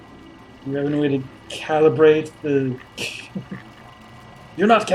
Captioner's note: chuckles